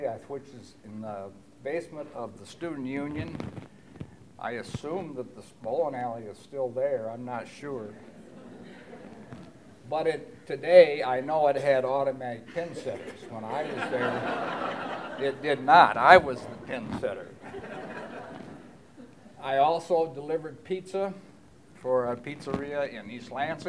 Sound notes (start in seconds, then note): 8.1 laughter; 15.2 laughter